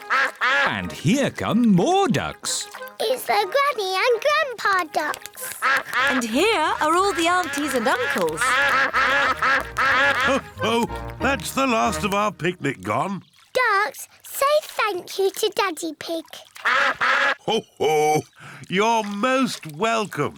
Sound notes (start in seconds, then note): 16.6 all quack